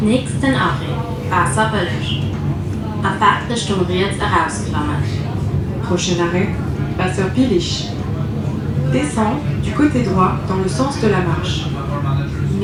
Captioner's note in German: Ansage auf Luxemburgisch und Französisch